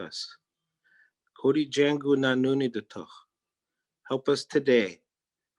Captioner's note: speaking in Native Language